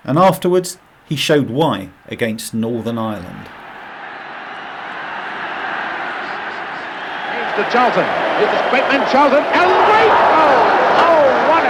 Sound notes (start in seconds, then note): 3.8 crowd shouting; 10.7 crowd roaring